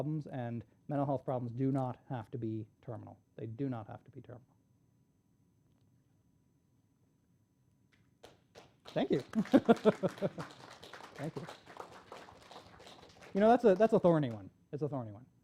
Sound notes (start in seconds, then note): 8.2 applause; 9.0 laughs